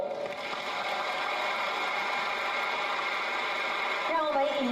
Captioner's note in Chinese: 掌聲